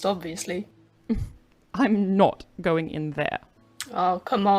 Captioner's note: Regulus laughs